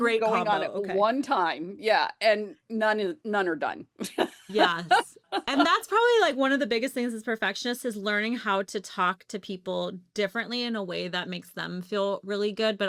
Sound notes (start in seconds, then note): 4.1 laughs